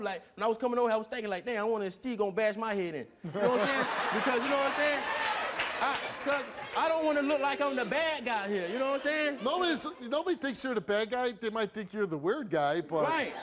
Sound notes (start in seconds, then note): 3.3 audience laughs